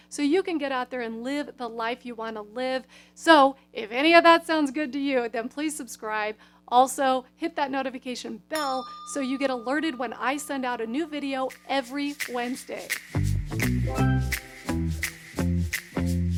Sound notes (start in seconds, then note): 8.5 bell ringing; 13.3 upbeat music